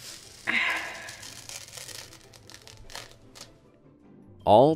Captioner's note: sighing